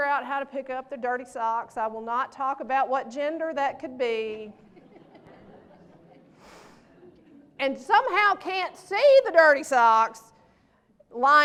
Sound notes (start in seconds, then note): 4.6 laughter